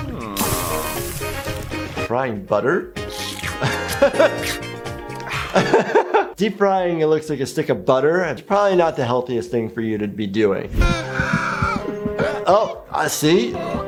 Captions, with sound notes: (butter sizzling) Frying butter? (laughs) Deep frying, it looks like a stick of butter. That's probably not the healthiest thing for you to be doing. (dramatic music) (heart beats fast) Oh, see.